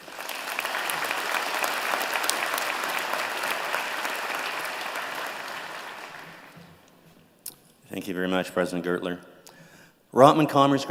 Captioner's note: applause